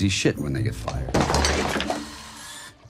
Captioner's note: objects clatter